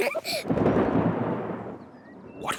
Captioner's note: both giggle; thunder rumbling